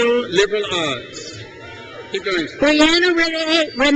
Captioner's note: crowd cheers